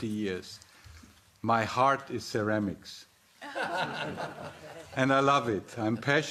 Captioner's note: audience laughing